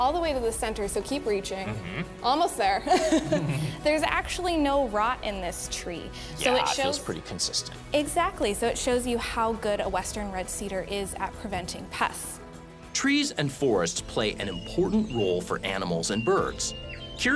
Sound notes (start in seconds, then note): 2.8 laughs